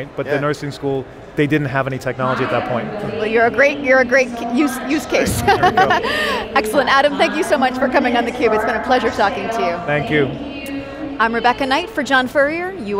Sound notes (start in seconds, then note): 5.2 laughter